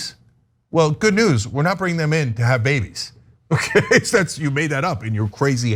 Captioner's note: laugh